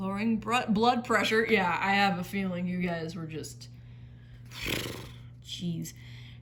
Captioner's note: raspberry sigh